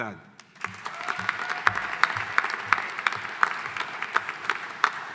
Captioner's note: audience applauding